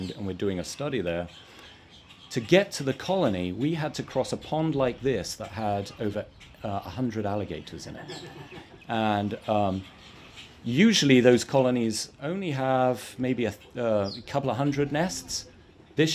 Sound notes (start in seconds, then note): 7.8 audience laughs